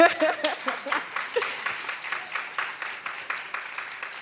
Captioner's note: audience claps